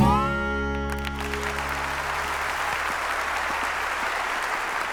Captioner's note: audience applauding